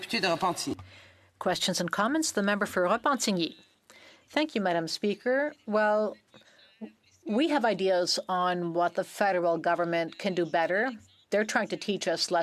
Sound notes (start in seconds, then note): 5.2 speaking French